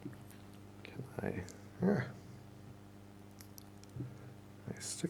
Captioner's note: mumbles to himself